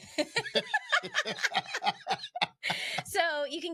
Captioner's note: both laughing